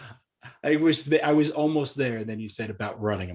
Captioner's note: laughs